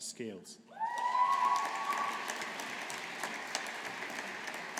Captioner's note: audience applauding